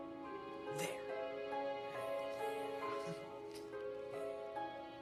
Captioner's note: laughs